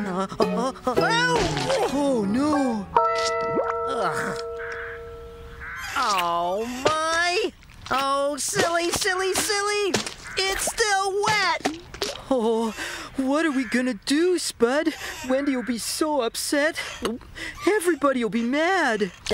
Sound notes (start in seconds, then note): 16.8 gulps